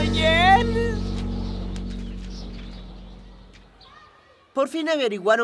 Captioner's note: echoing